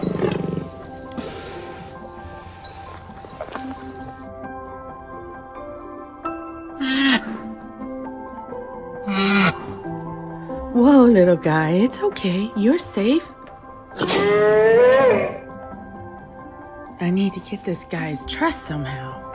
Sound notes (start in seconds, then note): 5.7 Brachiosaurus screeching; 14.0 brachiosaurus roaring